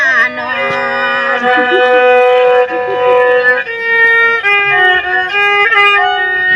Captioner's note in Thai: ปรบมือ